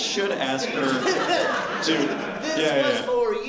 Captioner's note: laughter